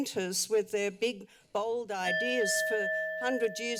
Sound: timer bell dings

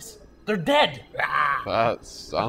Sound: imitates zombie growl

